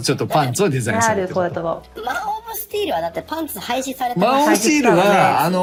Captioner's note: laughs